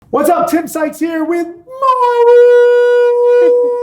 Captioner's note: yelling